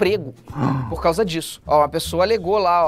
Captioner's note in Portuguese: faz som de surpresa